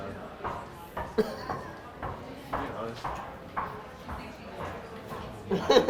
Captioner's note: laughs